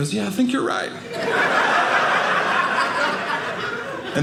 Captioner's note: audience laughing